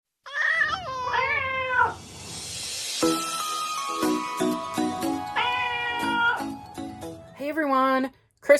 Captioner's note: meowing Cats